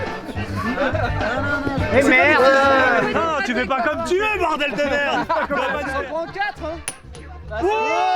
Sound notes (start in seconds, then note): 4.5 laughing